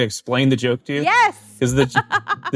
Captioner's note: laughs